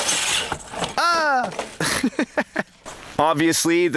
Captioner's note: laughing